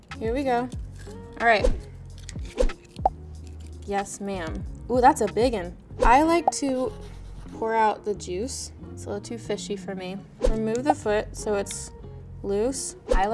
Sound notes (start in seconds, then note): 2.7 popping sound effects